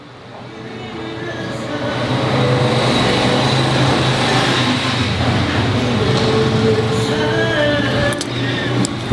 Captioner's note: sound of car passing